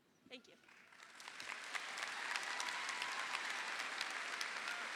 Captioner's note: audience applauding